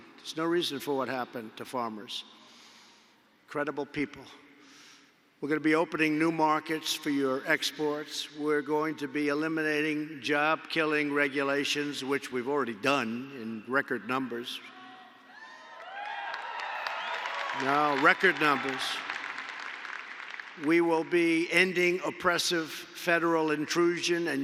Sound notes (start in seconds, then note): 15.8 applause